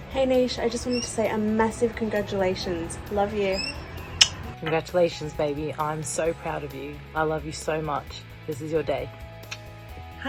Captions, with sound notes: - Hey, Nesh, I just wanted to say a massive congratulations. Love you. (smacks lips) - Congratulations baby. I'm so proud of you. I love you so much. This is your day. (smacks lips)